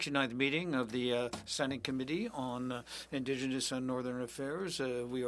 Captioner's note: speaking French